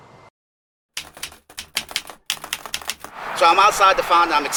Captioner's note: keyboard keys clicking